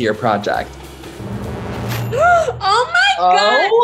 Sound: suspenseful music; gasping

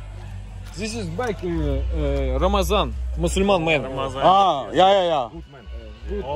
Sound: speaker noise

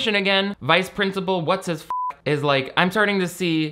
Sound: beep

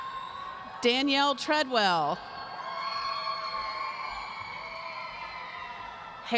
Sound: audience cheering

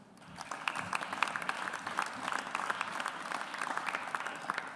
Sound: audience applauds

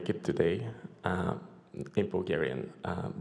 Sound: in foreign language

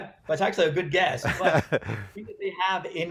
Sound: laughing

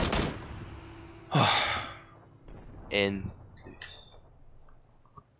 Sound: sigh

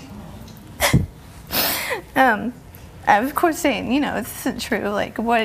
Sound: cries

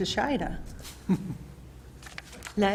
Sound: laughs

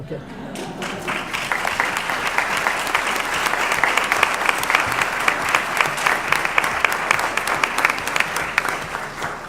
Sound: applause

